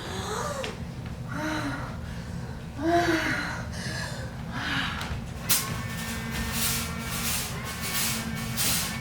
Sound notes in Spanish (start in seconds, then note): 0.0 Gemidos; 2.9 Respira fuertemente